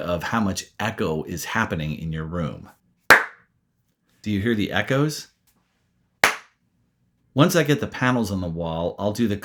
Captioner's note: clap